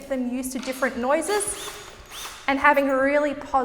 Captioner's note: drill whirs